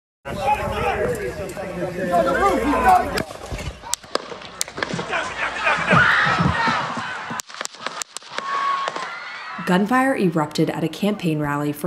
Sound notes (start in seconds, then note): 3.9 gunshot pops; 4.8 crowd screams; 7.3 gunfire pops; 7.6 crowd screams